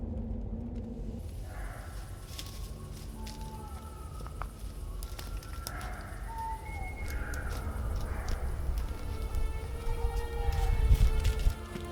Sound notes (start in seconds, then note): 2.5 owls hooting; 8.9 somber music